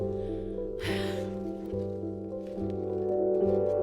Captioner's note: sighs